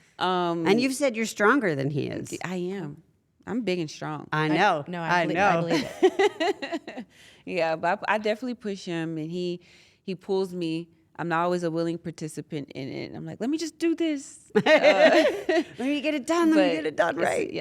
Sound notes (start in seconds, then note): 6.2 laugh; 14.6 laugh